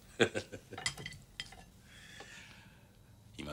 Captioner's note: chuckles